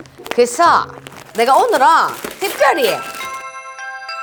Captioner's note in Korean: 띵동 띵동